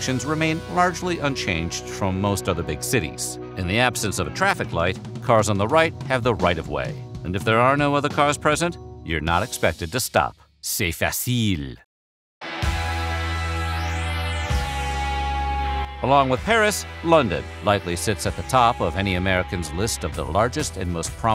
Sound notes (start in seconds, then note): 10.5 french